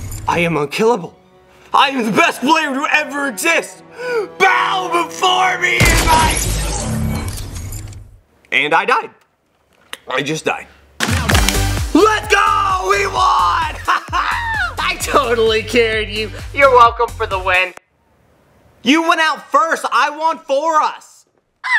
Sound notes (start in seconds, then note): 6.0 video game weapon fires